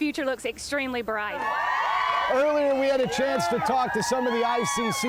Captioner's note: cheering